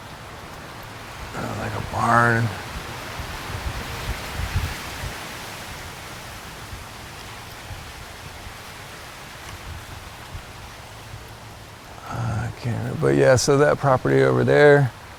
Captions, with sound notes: Like a barn. (leaves rustle) Yeah, so that property over there,